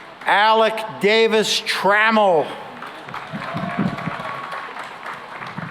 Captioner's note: cheering and applause